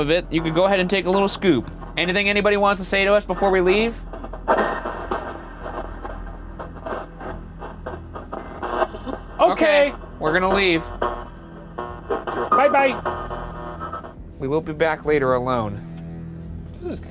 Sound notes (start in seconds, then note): 6.8 static buzzing